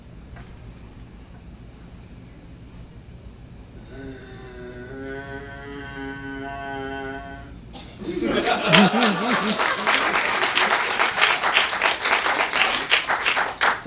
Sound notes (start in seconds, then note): 3.8 zombie noise; 8.0 audience laughs; 8.2 audience applause